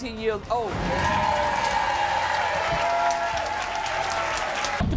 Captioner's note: crowd cheers